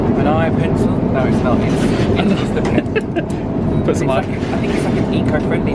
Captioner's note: laughs